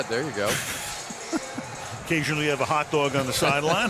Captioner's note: laughs